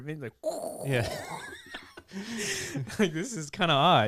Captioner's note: laughing